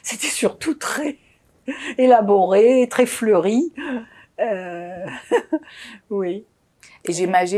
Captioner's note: laughing